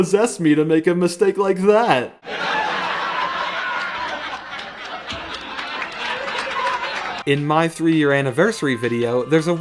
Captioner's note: laugh track